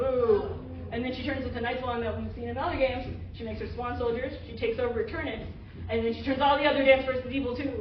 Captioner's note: none